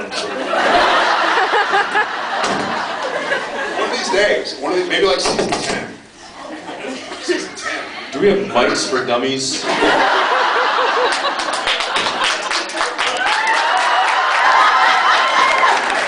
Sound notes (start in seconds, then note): 0.0 laughs; 5.6 mic crackles; 9.6 laughs; 13.4 cheers, applauds